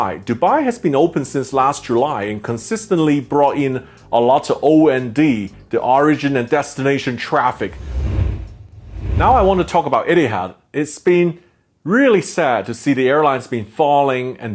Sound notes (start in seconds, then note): 7.6 air whooshing